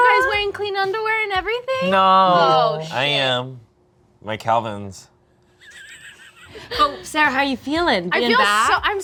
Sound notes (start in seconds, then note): 5.6 snickering